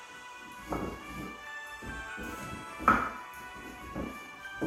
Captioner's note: wood banging gently